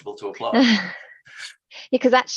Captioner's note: chuckling